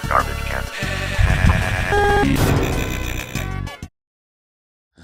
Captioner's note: laughing